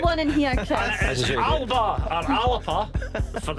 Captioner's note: laughter